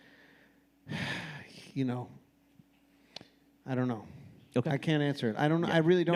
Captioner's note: sighs